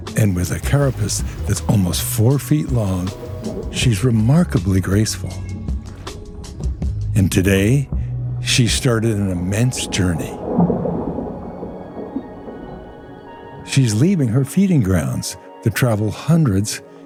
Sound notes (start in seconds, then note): 10.5 gentle music; 10.5 water waves loudly